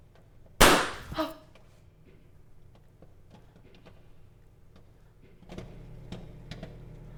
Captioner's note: kernel pops; Hillary gasps